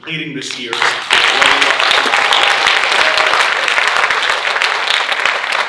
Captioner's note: audience cheering and applauding